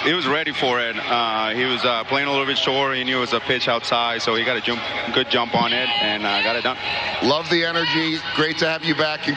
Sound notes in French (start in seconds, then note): 0.3 speaking spanish